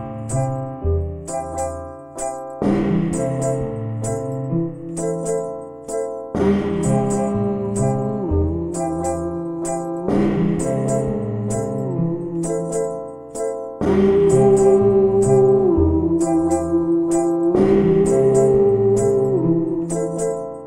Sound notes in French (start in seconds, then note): 0.2 musique guillerette; 7.1 fredonne